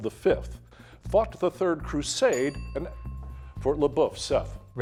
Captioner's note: bell dinging